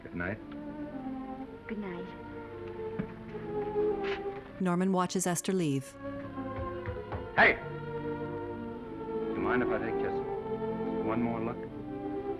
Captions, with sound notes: -Goodnight. -Goodnight. [footsteps hurriedly departing] Hey! You mind if I take just... just one more look?